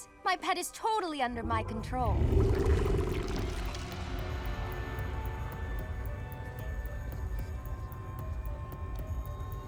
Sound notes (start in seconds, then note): 2.2 slobbery growl; 4.5 tense music